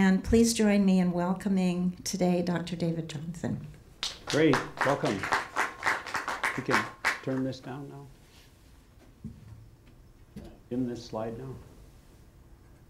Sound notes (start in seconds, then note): 4.0 audience applauding